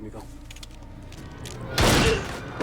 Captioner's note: tense music; gunshots banging; tense music